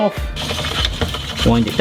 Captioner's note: spiralizer scraping